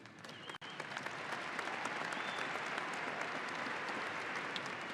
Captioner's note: audience applauding